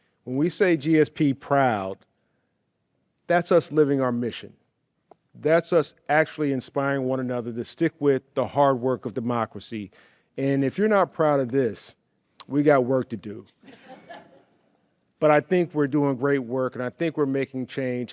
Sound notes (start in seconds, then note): 13.6 awardees laugh